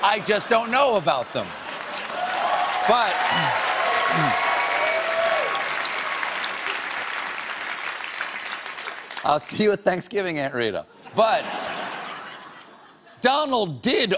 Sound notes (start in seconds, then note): 0.1 cheers and applause; 11.0 laughter